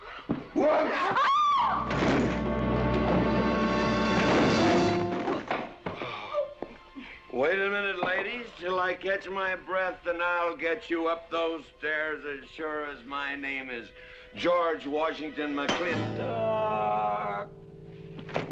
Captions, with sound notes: Whoops! (Screams) Wait a minute, ladies, till I catch my breath, then I'll get you up those stairs, as sure as my name is "George Washington McLintoooock".